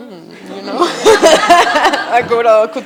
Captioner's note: attendees laughing